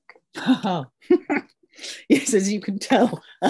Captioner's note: laughs